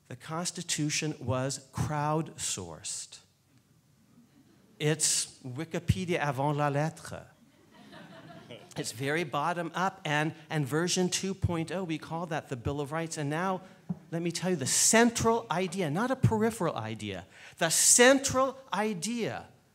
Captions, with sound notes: The Constitution was crowd sourced. It's Wikipedia (speaking foreign language). (laughing) It's very bottom up, and version 2.0 we call that the Bill of Rights, and now let me tell you the central idea, not a peripheral idea, the central idea